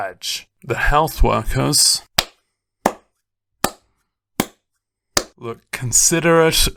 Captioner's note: clap